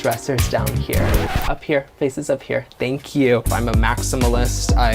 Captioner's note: record scratch